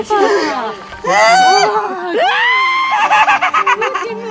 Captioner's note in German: Sie schreit und lacht